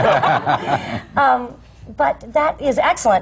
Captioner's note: laughter